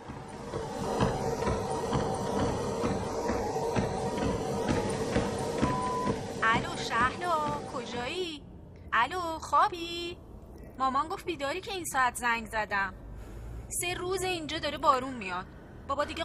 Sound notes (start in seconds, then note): 0.0 footsteps on treadmill; 5.6 message beep